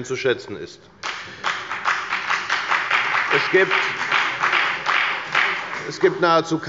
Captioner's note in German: Beifall bei der FDP